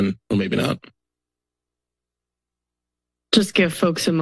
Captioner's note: silence